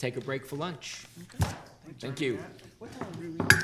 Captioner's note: gavel pounding